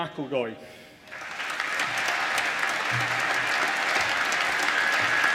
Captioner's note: applause